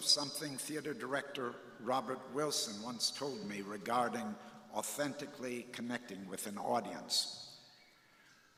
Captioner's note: none